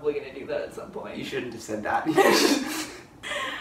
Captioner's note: laughter